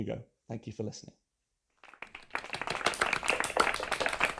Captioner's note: applause